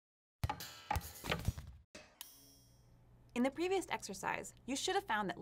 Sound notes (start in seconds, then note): 0.9 springing sound